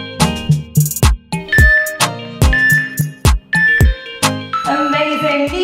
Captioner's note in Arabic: المؤقت يصدر صوتا